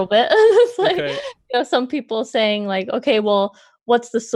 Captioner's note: laughs